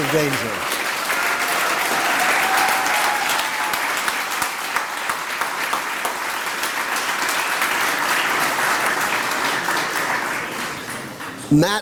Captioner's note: applause